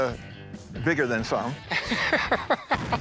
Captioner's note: laughs